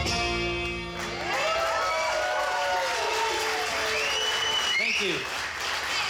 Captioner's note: audience cheering